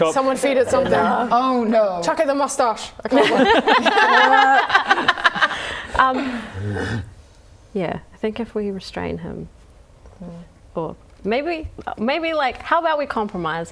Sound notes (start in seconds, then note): 3.1 laughing; 6.3 bear growl